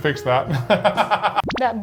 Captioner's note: laughing